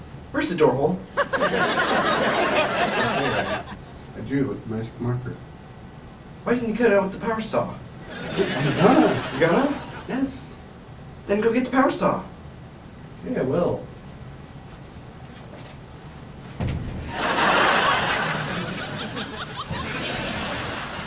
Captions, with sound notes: Where's the door hole? Right there. I drew it with the magic marker. Why didn't you cut it out with the power saw? I was gonna! You were gonna? Yes! Then go get the power saw! Okay, I will. *thump*